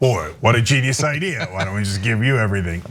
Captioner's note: laugh